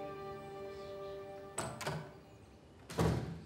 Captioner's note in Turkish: Kapı açılma sesi